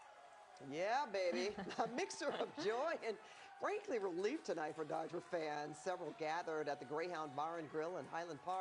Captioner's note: cheering